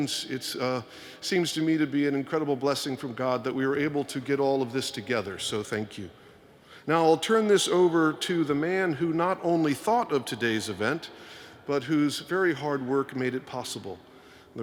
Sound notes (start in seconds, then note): none